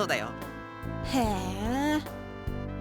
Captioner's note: hum